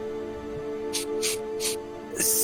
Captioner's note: sniff sniff sniff